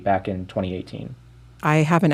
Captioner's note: soundbite of archived npr broadcast